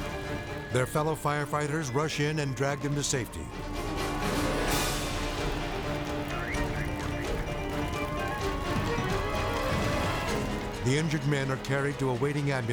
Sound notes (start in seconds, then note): 3.5 dramatic music; 3.5 siren blares